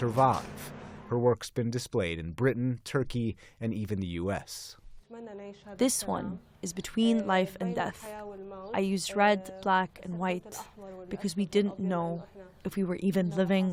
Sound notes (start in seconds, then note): 6.5 through translator